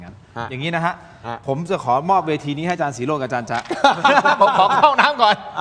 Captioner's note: laughter